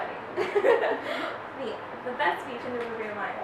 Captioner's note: laughs